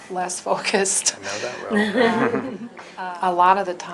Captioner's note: laughter